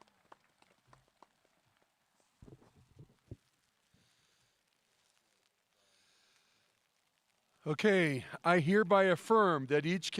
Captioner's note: cheering and applause